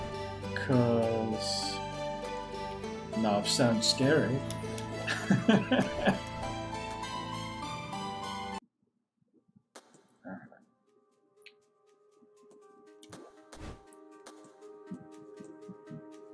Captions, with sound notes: 'Cause... Nav sounds scary. [laughs] All right.